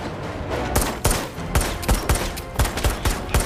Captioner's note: gunshots